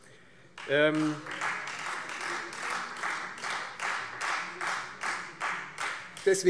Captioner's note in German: Beifall Freie Demokraten